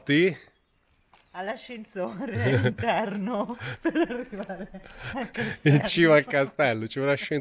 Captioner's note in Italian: risate